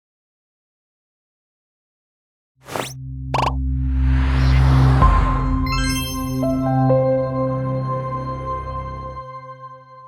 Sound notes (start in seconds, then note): 2.7 electronic zapping; 5.6 bright chord; 6.4 gentle piano notes